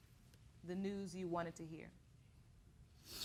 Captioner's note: sniffles